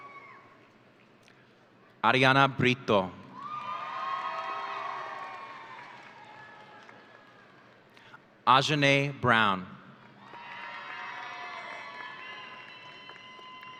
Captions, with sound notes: Ariana Brito. (audience cheering) Ajanae Brown. (audience cheering)